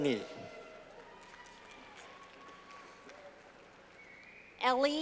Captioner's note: clapping